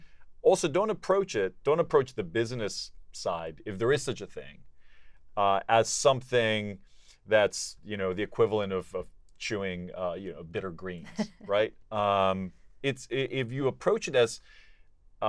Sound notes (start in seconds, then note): 11.0 laugh